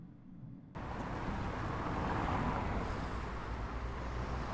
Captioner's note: traffic noise